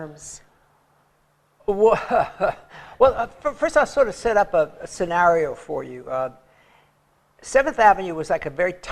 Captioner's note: laughs